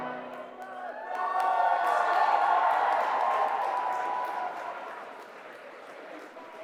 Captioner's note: audience applauding and cheering